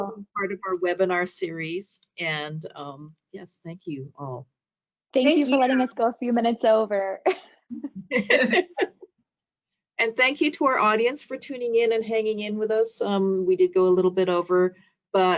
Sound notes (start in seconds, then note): 7.8 group laughing